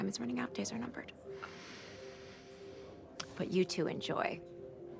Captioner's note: inhales heavily